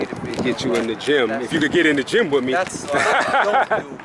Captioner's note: laughs